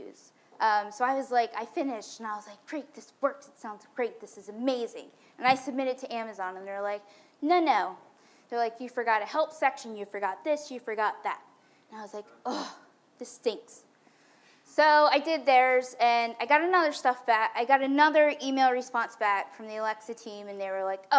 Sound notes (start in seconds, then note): 12.3 groans